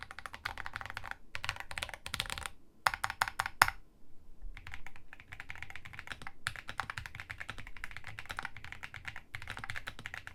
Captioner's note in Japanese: 打鍵音チェック中